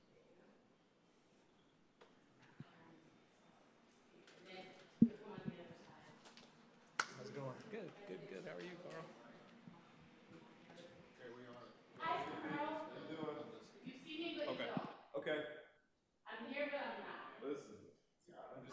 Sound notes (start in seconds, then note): 5.9 crowd chattering